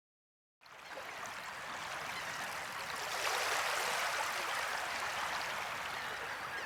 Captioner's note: waves softly crashing